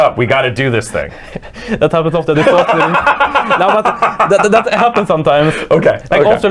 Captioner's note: laughs